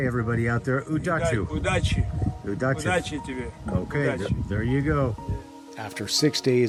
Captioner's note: speaks in foreign language